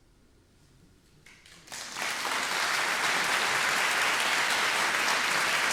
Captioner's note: audience applauding